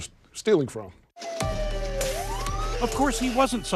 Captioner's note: police siren blaring